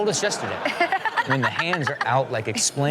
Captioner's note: audience laughing; Chanel laughing